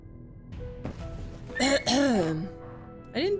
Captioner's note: clears throat